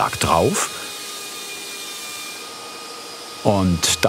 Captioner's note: whirring